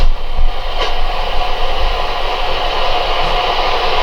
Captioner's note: static